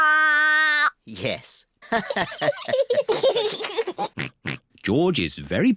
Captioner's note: all laugh